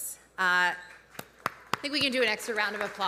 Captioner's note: audience applauding